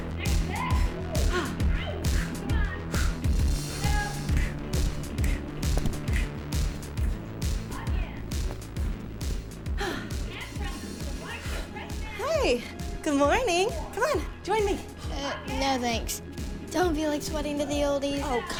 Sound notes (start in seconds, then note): 3.8 snapping in time; 9.4 gasping breath; 9.6 sighs